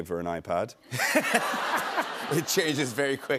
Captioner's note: laughter